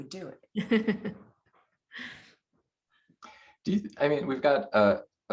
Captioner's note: laughter